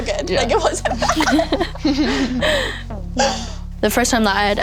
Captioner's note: all laugh